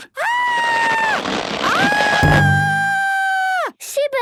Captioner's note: screaming